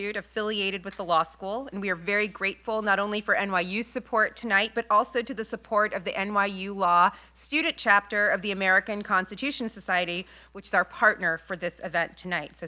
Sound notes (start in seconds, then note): none